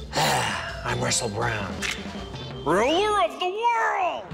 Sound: growls

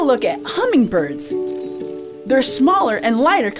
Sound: birds chirping, buzzing

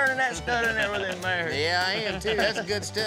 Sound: laughter

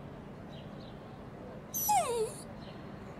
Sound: dog whimper

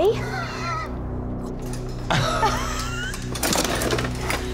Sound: laughter; objects clanking

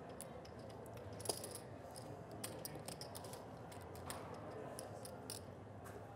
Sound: chips clanking together

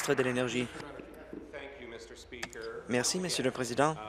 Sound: applause

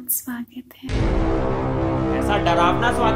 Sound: sus alarm triggered

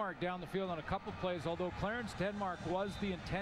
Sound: fans booing

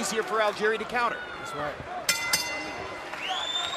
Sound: bell rings

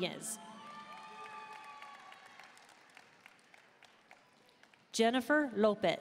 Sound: audience cheering and applauding

